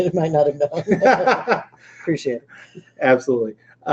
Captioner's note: laughing